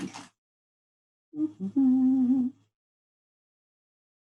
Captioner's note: hums